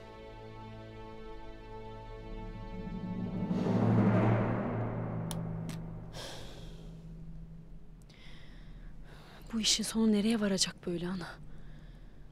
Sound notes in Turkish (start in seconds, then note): 6.1 Nefes sesi